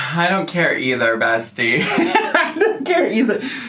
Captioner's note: laughing